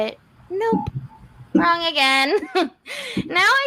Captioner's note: scoffs